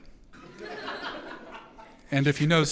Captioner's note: audience laughs